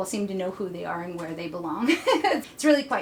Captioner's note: laughs